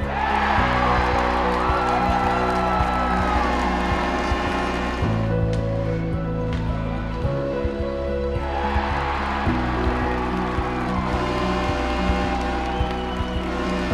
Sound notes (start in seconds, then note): 0.2 crowd cheering; 3.4 buzzer sounds; 8.5 crowd cheering; 11.2 buzzer sounds